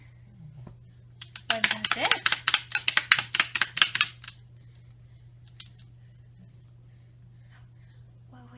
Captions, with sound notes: What about this? (toy claps)